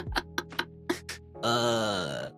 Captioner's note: laughing